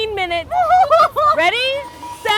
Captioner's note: mock crying